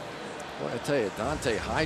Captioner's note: pa announcement